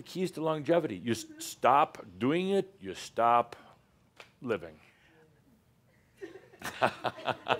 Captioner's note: she shrugs, chuckles